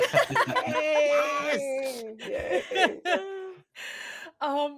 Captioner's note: everyone laughs